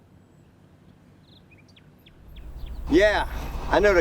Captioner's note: birds chirping